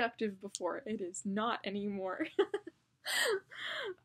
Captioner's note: laughs